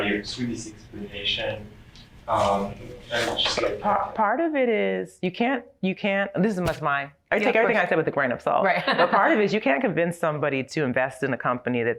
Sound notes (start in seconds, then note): 8.9 laughs